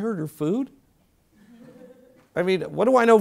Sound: laugh

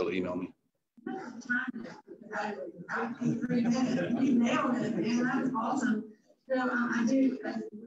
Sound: chatter

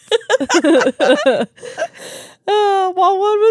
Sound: laugh

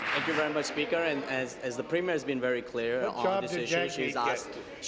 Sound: applause

